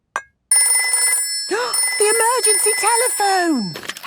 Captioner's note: phone ringing, gasp